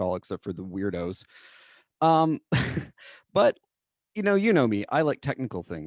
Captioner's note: laughter